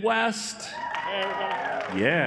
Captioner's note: cheering